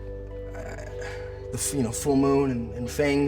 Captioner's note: sighs